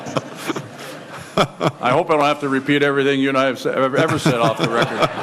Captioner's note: laughter